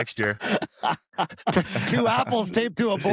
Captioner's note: laughter